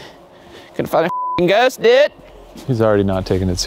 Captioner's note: beep